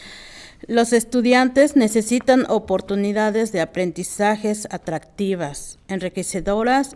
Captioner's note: speaking in foreign language